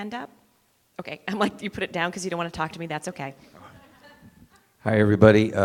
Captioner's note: laughter